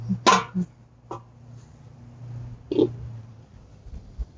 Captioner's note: humming; metal rattling